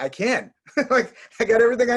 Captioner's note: laughing